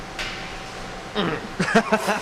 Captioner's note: groans; laughs